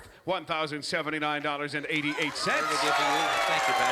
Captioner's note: cheering and applause